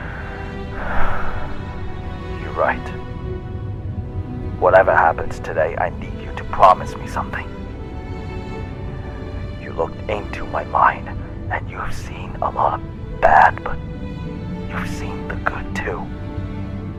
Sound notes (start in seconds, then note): 3.8 sigh